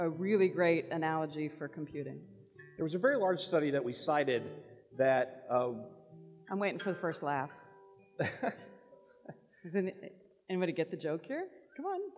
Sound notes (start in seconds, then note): 8.2 laughs